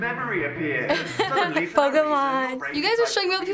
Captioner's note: laughs